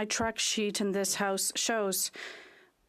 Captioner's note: speaking French